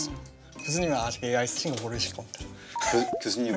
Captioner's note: shh